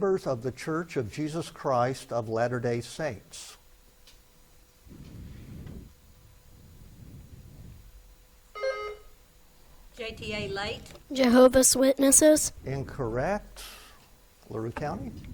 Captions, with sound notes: of the Church of Jesus Christ of Latter Day Saints. (buzzer beeps) - JTA, Late. - Jehovah's Witnesses. - Incorrect. LaRue County.